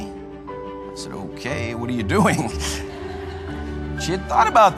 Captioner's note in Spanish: risas